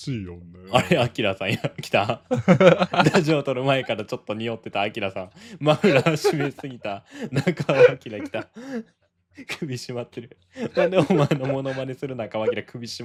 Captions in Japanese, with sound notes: あれ、あさん来た。ラジオ撮る前からちょっと匂ってた。あさんマフラー閉めすぎた。中明来た。首ってる。なんでお前のもノマねする中首まってんねん毎回。 [笑い] [笑い]